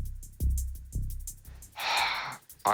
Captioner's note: sighs